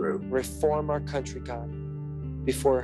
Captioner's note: soundbite of archived recording